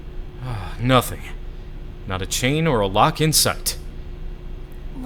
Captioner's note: sigh